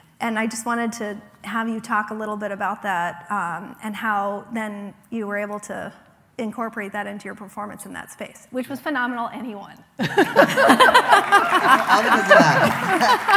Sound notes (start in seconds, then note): 10.0 laughing; 12.6 laughs